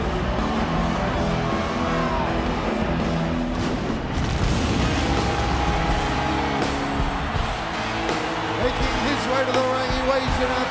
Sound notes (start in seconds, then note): 4.0 fireworks booming; 4.5 ominous organ music